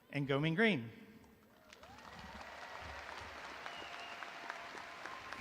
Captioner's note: audience applauding